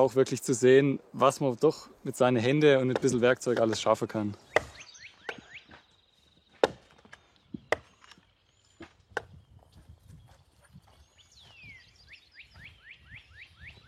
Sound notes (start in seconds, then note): 11.9 bird sounds